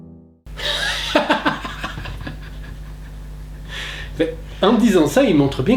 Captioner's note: laughing Out Loud